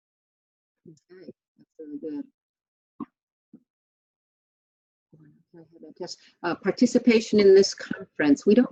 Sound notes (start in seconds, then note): 3.1 speaking faintly